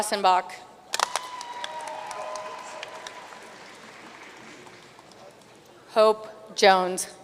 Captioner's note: audience cheering and applauding